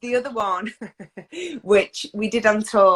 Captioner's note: laughs